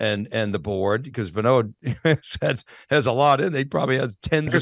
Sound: laughs

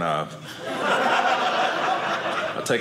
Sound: audience laughing

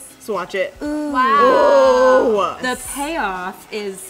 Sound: exclaims in excitement

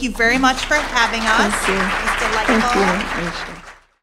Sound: applause

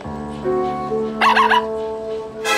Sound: barking

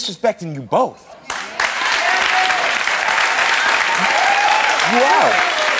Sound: audience cheering and clapping

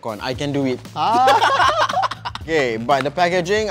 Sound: laughs

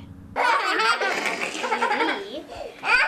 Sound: kids screaming/laughing

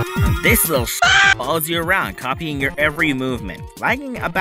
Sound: aaahhh

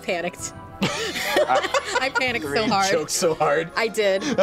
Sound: laughs

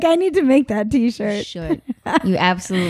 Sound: laughing

